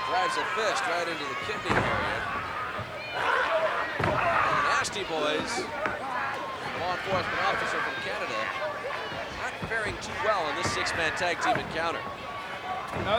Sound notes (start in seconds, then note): 4.0 blows thudding; 4.1 wrestlers grunting